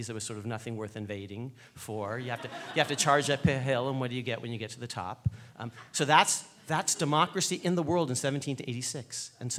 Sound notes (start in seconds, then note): 1.9 laughing